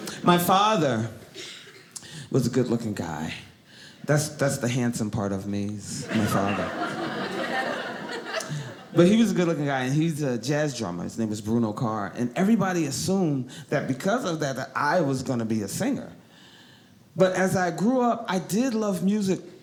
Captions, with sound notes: My father was a good looking guy. That's the handsome part of me, is my father. (audience laughing) But he was a good looking guy and he's a jazz drummer, his name is Bruno Carr. And everybody assumed that because of that that I was going to be a singer. But as I grew up, I did love music